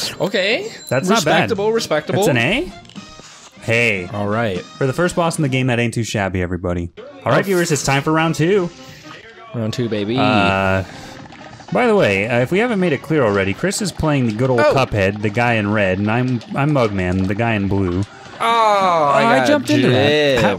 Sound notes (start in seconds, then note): 8.8 deep breath